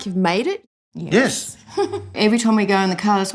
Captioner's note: chuckles